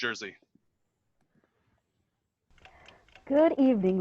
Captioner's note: ticking sound throughout